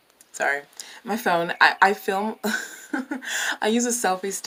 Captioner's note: giggles in poor person